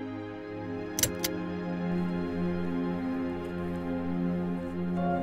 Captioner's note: light clicking on